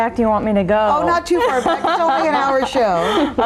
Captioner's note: laughing